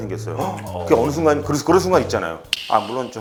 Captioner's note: eh